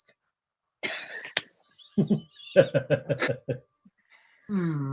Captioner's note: laugh